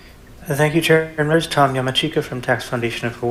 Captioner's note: mic disrupts voice